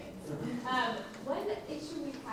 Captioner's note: laughing